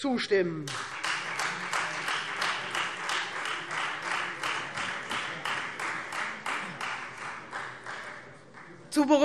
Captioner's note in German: Beifall Freie Demokraten